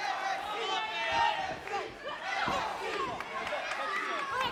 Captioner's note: crowd chanting "NXT"